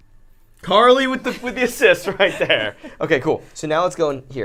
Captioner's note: laughs